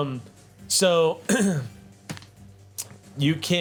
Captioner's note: clears throat